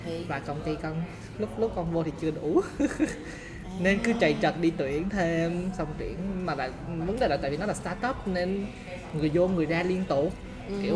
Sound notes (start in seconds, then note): 3.4 laugh